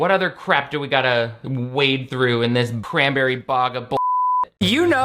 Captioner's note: beep